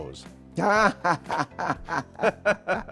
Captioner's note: André laughing; laughing